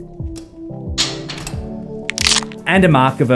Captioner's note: bones cracking